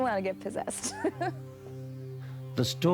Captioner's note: laughing